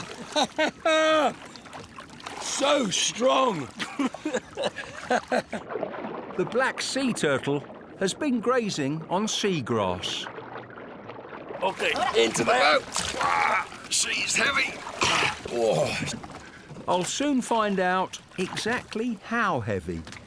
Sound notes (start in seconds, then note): 0.1 laughs; 3.2 guide laughs